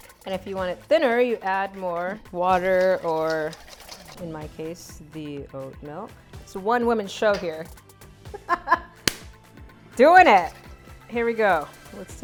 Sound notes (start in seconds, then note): 7.7 laughs